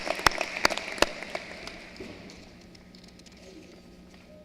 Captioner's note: cheering and applause